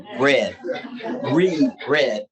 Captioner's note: audience laughing